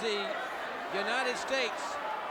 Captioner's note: crowd cheering